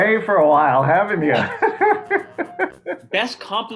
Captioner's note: laughter